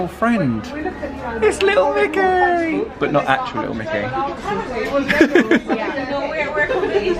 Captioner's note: chuckles